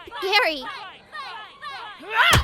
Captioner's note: screams; pained cry